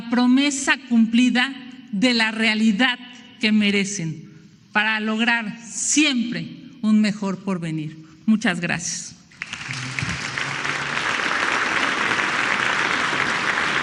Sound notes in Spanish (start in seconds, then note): 9.3 aplausos